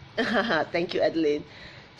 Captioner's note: laughing